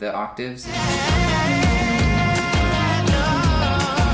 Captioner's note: vocalizes